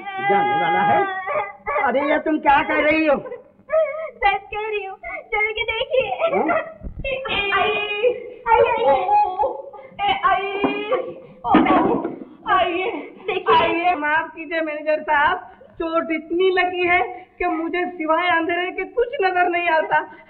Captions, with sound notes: He is about to go what are you saying? I am telling the truth come and see for yourself. (Crying) (Groans) - Come in. (Groans) - Please sit. Sir.. come in. - Look at him. Forgive me, manager. I am injured so badly that I am not able to.. ..see anything other than darkness.